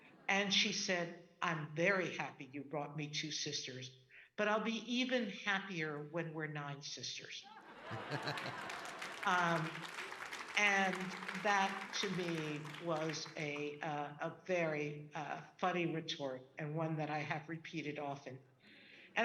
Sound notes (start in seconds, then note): 7.6 audience laughing; 7.8 laughing; 9.6 audience clapping